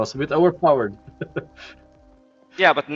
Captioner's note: laughs